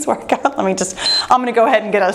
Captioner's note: timer beeps